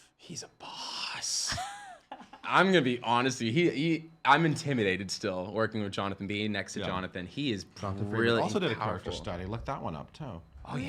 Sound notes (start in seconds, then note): 1.5 laughing